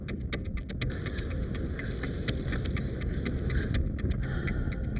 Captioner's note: ground rumbling; wind blowing